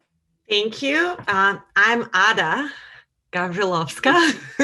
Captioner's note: laughs